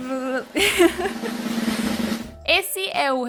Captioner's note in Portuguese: risada e tambores